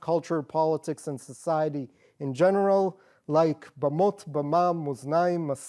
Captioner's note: non english